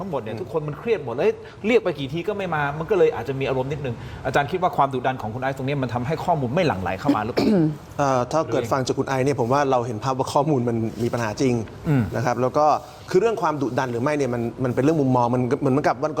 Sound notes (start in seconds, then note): 7.0 clears throat